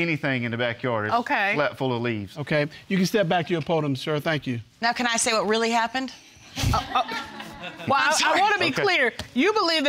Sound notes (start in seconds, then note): 6.6 all laughing